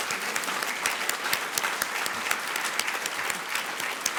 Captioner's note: applause